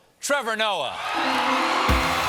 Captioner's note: cheers and applause